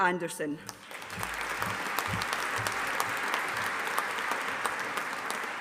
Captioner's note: audience applauding